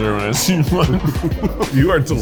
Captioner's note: laughs